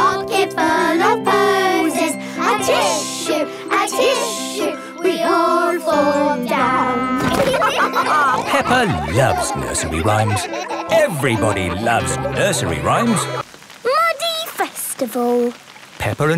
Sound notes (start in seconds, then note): 7.2 all laughing